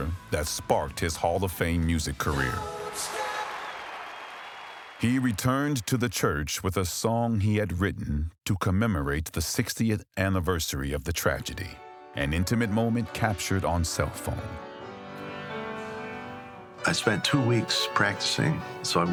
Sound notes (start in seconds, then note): 2.3 audience cheering; 2.4 audience applauding